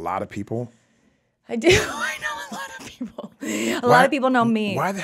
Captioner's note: laughs